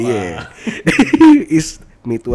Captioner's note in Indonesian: ketawa